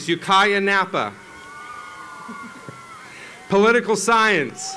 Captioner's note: applause